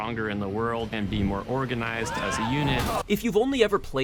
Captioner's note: crashing, many screams all the while